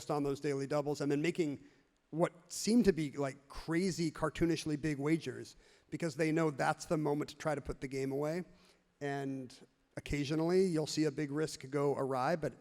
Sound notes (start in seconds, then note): none